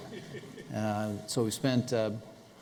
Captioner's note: laughter